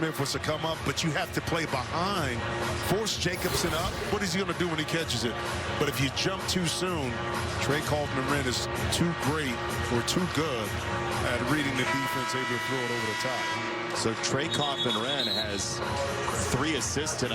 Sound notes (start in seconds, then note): none